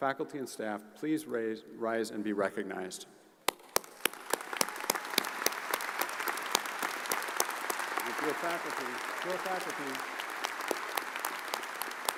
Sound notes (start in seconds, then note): 3.5 audience applauds